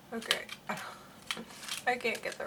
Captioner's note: laughs